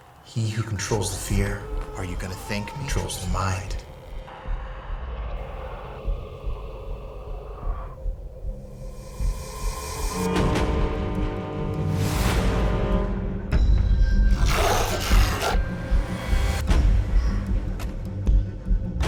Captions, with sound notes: He who controls the fear. Are you gonna think controls the mind? [heartbeat thumping] [tense music] [man growling]